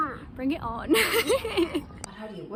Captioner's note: laughter